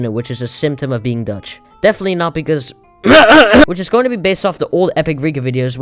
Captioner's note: throat clear